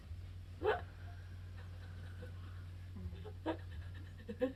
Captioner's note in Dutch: vraagsteller huilt